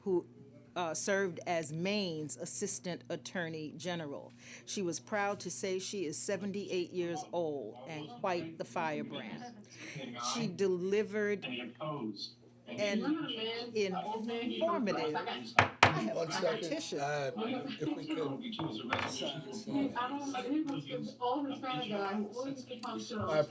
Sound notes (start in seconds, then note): 12.0 recording plays